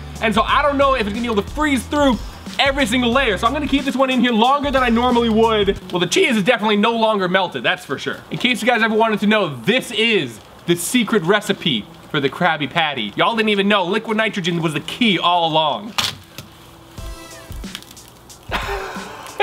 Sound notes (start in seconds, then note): 16.1 cracking; 17.0 upbeat music